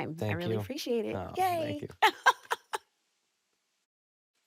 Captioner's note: laughs